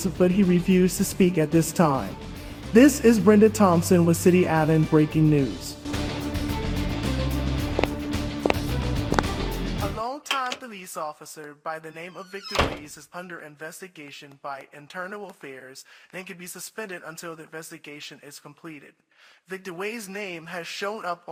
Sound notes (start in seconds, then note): 5.8 dramatic music continues; 8.4 footsteps fall